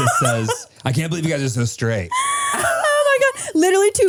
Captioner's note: all laugh